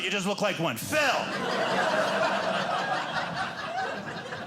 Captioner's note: audience laughing